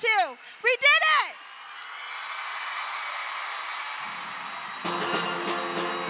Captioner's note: all applauding; upbeat music